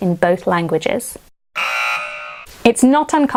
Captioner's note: buzzer blaring